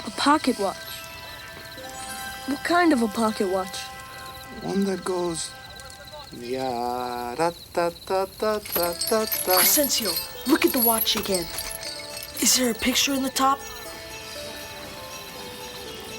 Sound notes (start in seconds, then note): 1.3 suspenseful music; 6.3 Crecencio hums melodically